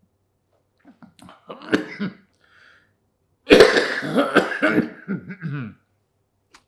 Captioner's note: coughing